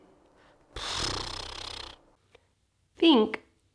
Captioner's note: blows through lips